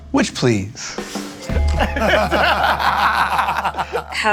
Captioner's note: laughter